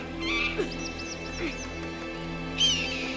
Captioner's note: Alexander gasps; eagle screeching